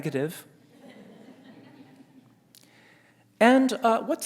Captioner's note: scattered laughter